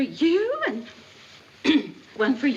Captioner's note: CLEARlNG THROAT